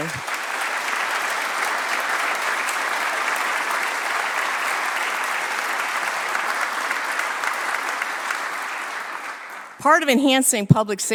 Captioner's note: applause